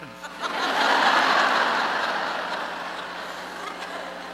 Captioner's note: laughter